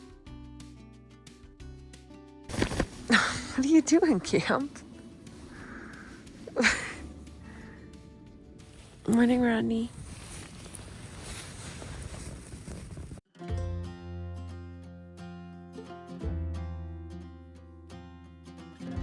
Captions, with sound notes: (chuckles) What are you doing, Camp? Morning, Rodney. (lighthearted music)